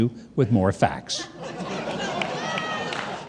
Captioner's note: audience laughing